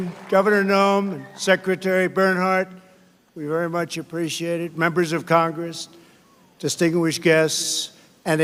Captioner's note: applause